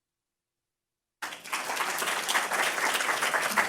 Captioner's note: applause